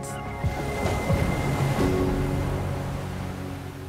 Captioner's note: waves crash